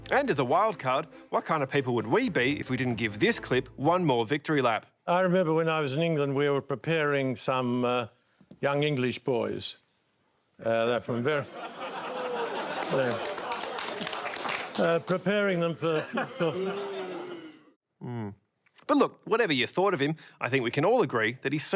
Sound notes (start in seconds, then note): 11.4 audience laughs and jeers; 11.9 audience clapping